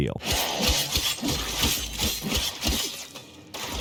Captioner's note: sword slicing